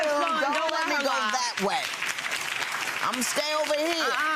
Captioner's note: audience applauding